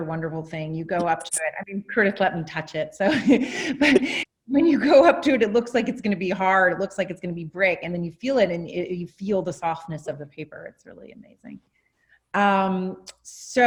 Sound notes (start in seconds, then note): 3.2 laughs